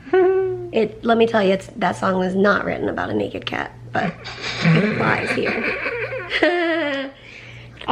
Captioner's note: both laugh